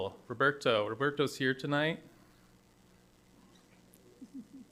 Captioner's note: laughs